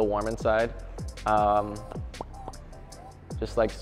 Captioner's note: pop pop pop